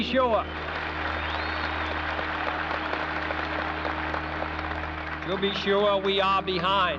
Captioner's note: audience applauds